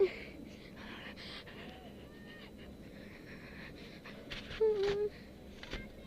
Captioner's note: panting/breathing deeply; whimpers